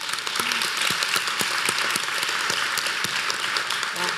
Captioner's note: applause